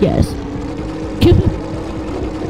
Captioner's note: laughter